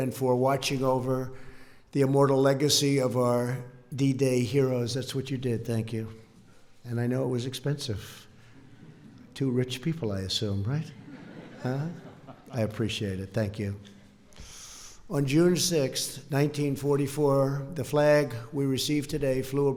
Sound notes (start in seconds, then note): 10.9 laughter